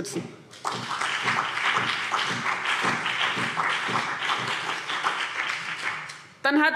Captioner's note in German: Beifall CDU und BÜNDNIS 90/DIE GRÜNEN